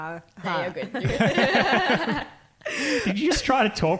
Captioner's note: laughing